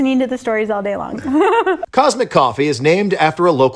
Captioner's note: chuckles